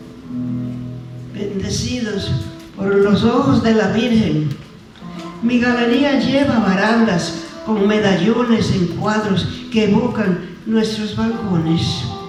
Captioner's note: speaking spanish